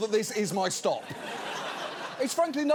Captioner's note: audience laughs